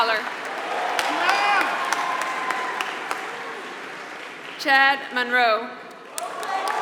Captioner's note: applause